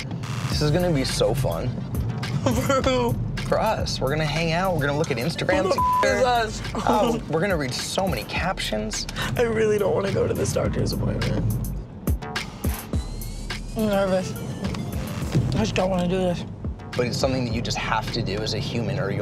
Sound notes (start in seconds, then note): 5.6 beeps